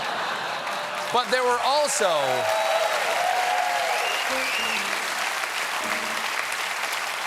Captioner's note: applause; laughter; cheers